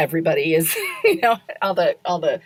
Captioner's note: laughs